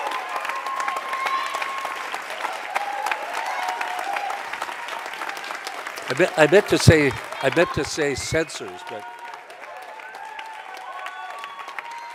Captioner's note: cheers and applause